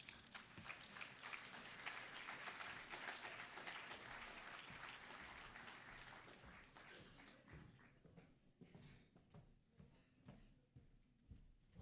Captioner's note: applause